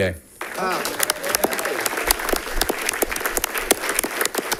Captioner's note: audience clapping